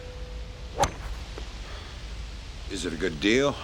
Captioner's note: ball thuds; club swishes